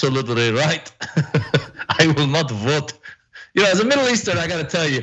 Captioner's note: laugh